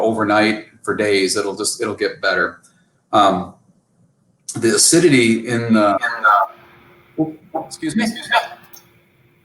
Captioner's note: echoing